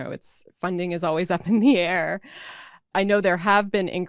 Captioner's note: laughs